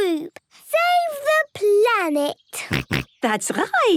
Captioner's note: snorts